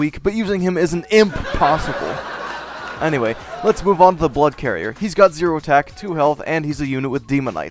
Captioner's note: laugh track